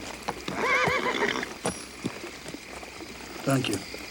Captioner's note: horse neighs